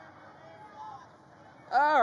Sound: audience shouts answers

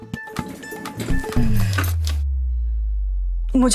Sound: sighing

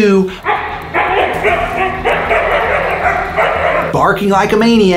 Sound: dogs barking

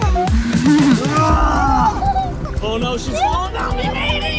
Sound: laughing; dad groans

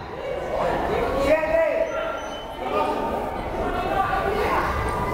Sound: whistle blows; crowd chattering

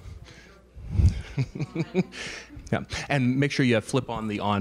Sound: laughing

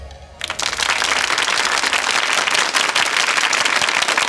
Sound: applauding

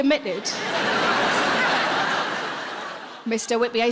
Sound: laughing

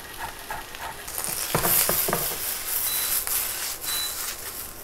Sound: pan sizzling

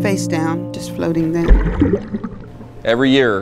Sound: water splashing

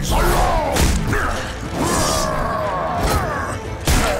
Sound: grunting

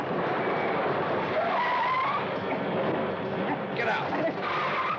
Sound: wheels screech

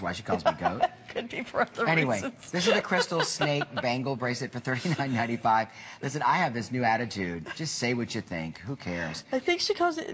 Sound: laughter

